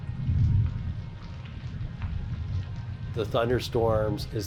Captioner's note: rain splutters